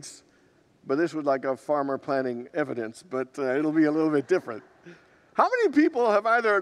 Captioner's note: congregants laugh